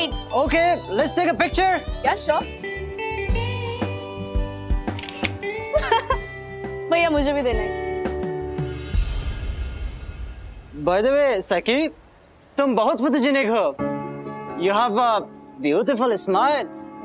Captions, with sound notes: - Okay, let's take a picture. - Yes, sure. [clicking sound] [laughs] Sir, please give me too. Sakhi, you are very photogenic. You have a beautiful smile.